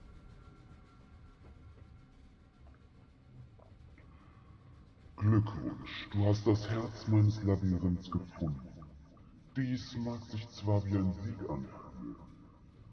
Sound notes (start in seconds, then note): 5.1 with deeper voice